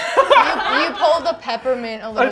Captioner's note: laughter